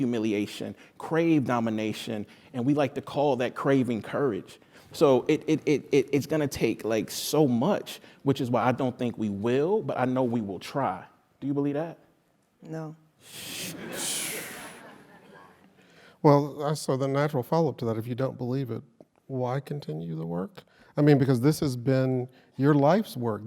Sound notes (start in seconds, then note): 13.5 laugh